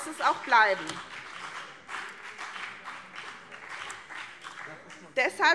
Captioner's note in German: Beifall BÜNDNIS 90/DIE GRÜNEN und CDU